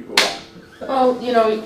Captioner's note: chuckles